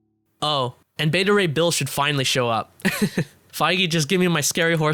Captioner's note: laughs